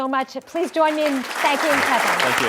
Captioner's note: audience applauds